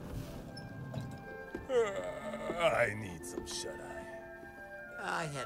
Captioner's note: he yawns